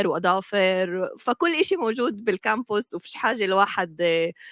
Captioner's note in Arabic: لغة أجنبية